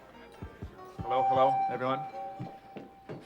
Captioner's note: tapping on microphone; on microphone